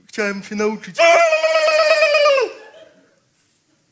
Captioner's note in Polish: krzyk